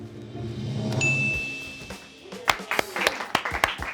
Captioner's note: bell dings; friends clap